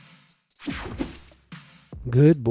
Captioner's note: screen whooshing